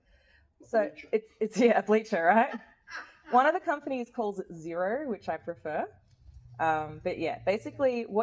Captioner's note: laughs